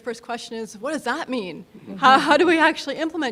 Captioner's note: audience laughing